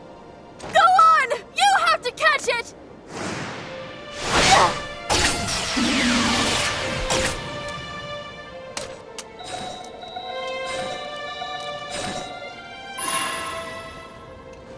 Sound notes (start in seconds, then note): 9.4 Poké Ball beeping